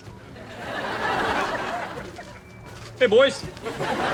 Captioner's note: audience laughs